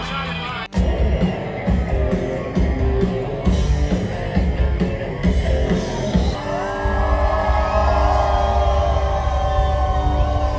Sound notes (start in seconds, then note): 0.3 rock music playing; 7.6 crowd cheers